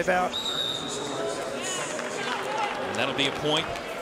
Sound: referee blows whistle

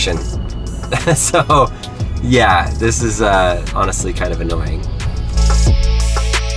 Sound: laughs; hip-hop music

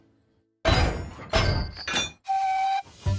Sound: Trucks couple up and Rebecca Whistles

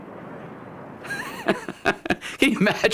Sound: laughs

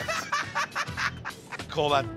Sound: laughter

